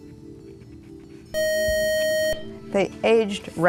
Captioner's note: beeping